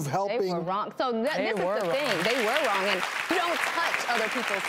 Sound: applause

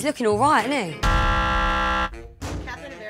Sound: buzzer

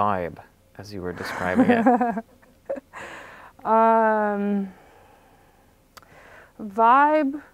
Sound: laughs

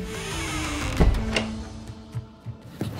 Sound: locks door

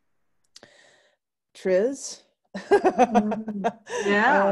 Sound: laughing

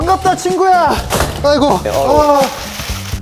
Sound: clank

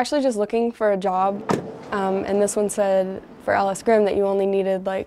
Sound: car door slams

